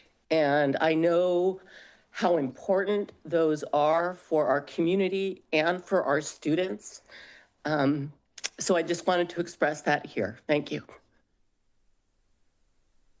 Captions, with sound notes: And I know how important those are for our community and for our students. [smacks lips] So I just wanted to express that here. Thank you.